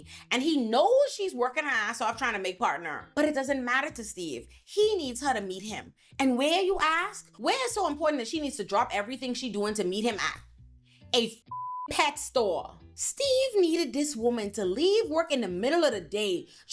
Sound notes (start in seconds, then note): 11.4 beep